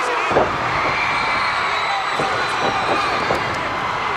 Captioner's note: crowd cheers